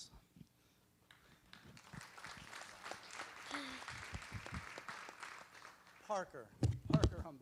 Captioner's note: applause